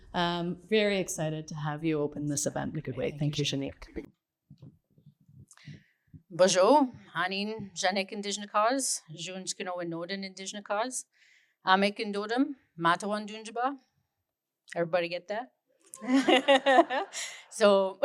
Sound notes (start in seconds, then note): 6.2 speaking in Anishinabemowin